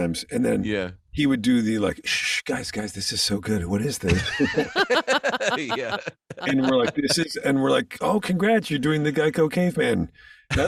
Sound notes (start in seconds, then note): 4.0 laughing